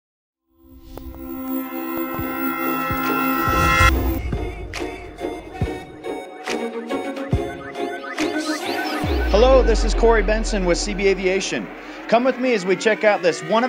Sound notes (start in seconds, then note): 0.6 sound of CB Aviation into logo